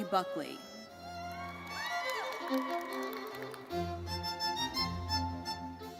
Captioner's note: audience cheering and applauding